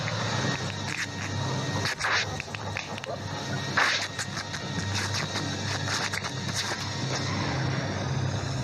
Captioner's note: muscle bulging, sound of suit ripping